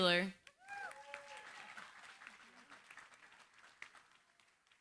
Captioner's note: cheering, applause